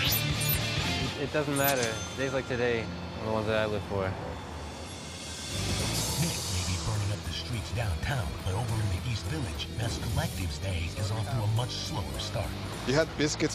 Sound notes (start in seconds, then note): none